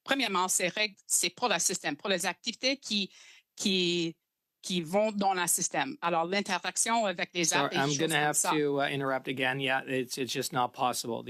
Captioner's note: speaking in French